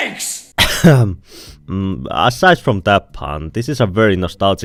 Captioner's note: cough